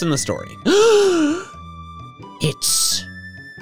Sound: gasps

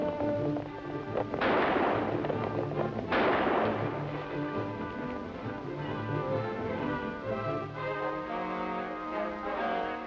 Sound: gun shots

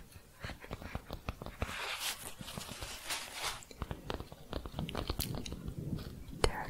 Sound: tapping and shuffling

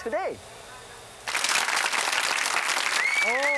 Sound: audience claps

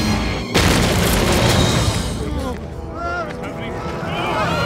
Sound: yelling

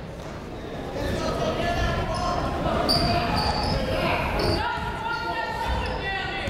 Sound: people shouting in the crowd

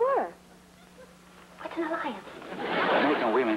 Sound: whispering

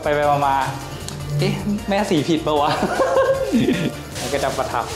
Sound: laugh

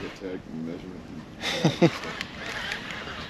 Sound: laughing; background chatter; chuckling

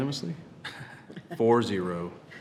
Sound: trustees chuckle

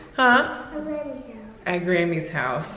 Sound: child talking

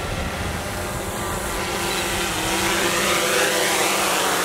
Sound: drone engine

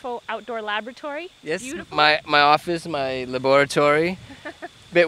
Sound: laughter

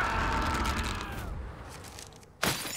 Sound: screaming; shattering

